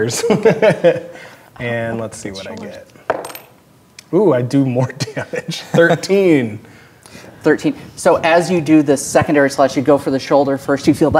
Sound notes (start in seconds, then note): 0.2 laughing; 3.1 dice rolling